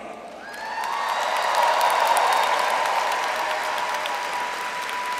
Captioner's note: audience cheers and applauds